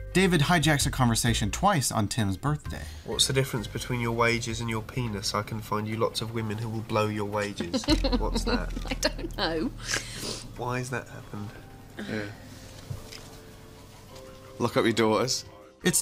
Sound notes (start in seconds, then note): 7.7 laughs